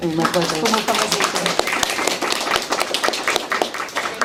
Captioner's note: applause